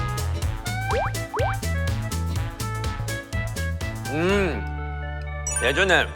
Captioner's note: nom, nom